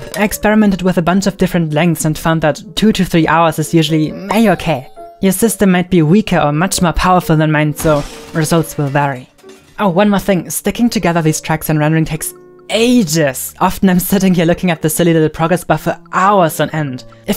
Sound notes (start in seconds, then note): none